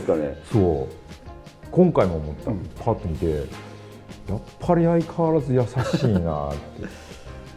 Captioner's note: laughs